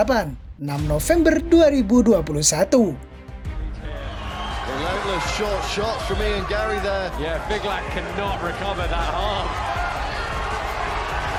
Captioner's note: applause